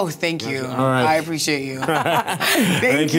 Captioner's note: chuckles